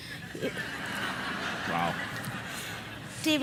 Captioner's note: laughter